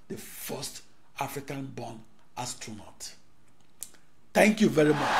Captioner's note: wild applause and cheering for 17 seconds